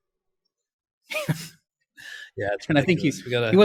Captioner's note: both laugh